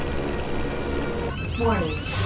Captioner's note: alarm blaring